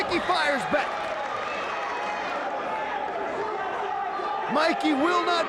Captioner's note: audience applauds and cheers